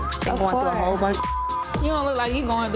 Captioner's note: beep